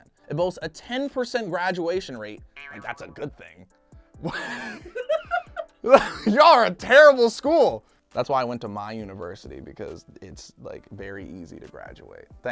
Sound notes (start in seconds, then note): 3.7 laughing